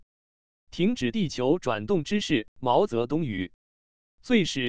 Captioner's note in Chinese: 毛泽东语